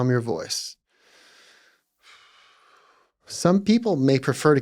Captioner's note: exhales